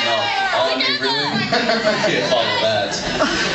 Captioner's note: laughs